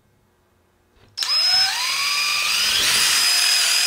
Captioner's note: drill whirs